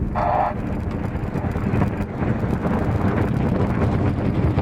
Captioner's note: engine and light wind noise